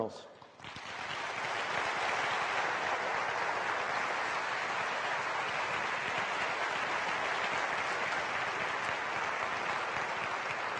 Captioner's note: applause